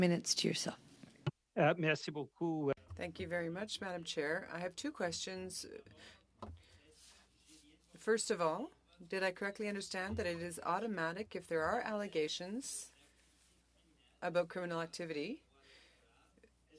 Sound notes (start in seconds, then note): 7.1 speaking French